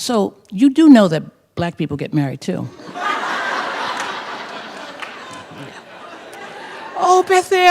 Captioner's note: laughter